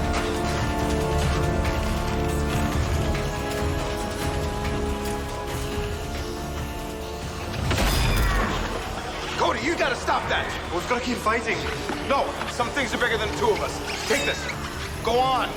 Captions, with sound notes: (dramatic suspenseful music continues) (weapons clanging) (fighters grunting) - Cody, you gotta stop that. - I was gonna keep fighting. - No, some things are bigger than the two of us. Take this. Go on.